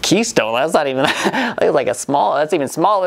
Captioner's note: laughs